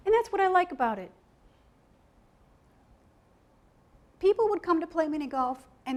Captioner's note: none